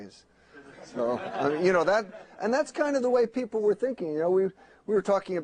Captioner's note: laughter